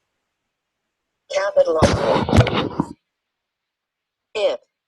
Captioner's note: voiceover; static drowns out synthesized voice